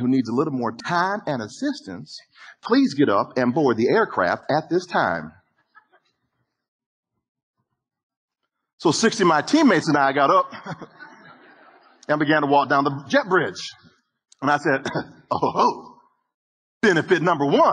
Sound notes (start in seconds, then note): 10.2 audience laughter; 16.7 audience laughter